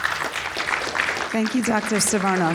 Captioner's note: audience applauding